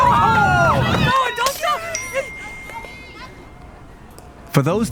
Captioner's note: crowd cheering; broken glass sound followed by notification